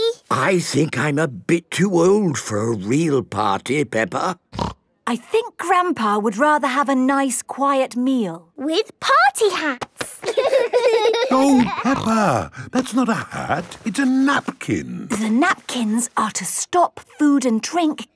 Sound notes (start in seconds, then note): 10.1 laughing